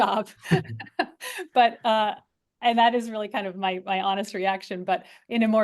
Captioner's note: laugh